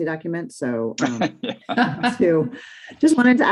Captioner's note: participants laugh